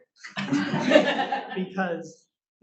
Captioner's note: audience laughing